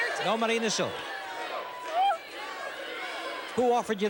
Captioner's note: cheers